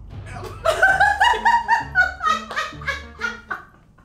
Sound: laughing

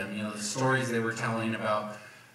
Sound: none

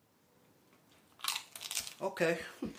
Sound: chip crunches

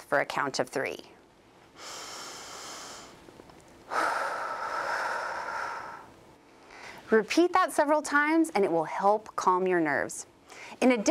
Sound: deep breaths

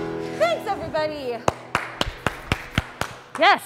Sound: applause

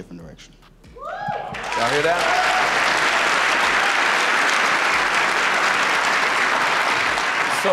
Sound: audience claps

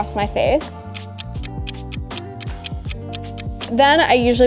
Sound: clock ticking

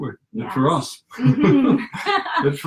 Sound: laughing

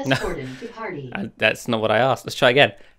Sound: laughs

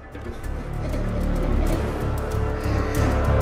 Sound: laughing

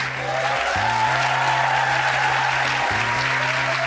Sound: audience cheers

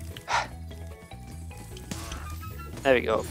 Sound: player sighs

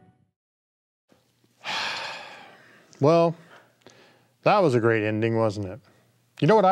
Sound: sighing deeply

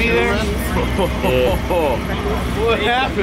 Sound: laughs

